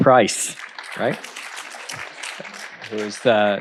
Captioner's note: audience applauds